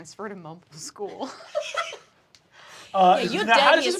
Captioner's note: Riz laughs